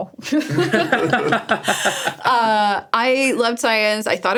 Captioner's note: group laughing